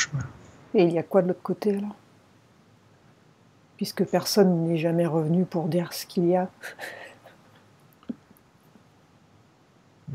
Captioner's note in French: rires